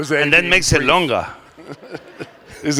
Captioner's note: laughter